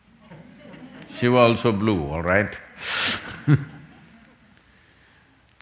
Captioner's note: laughs